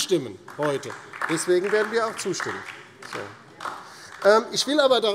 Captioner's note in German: Vereinzelter Beifall DIE LINKE